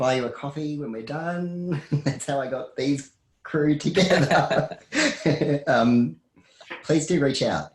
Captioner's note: laughs